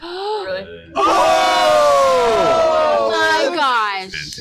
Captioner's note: yelling